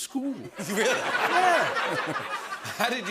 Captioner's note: laughter